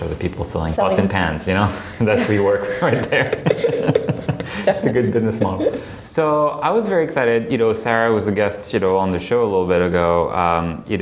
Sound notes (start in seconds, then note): 3.5 laughing